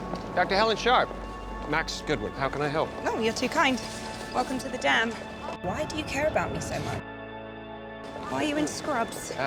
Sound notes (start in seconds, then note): 0.2 voiceover